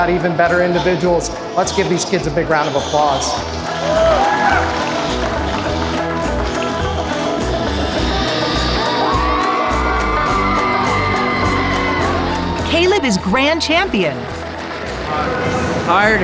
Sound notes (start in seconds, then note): 3.6 applause; 9.3 crowd cheering